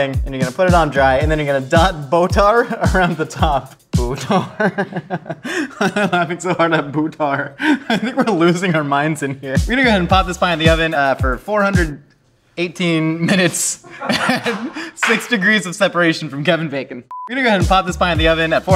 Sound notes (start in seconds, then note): 4.1 laughs; 13.8 audience laughs; 17.1 beep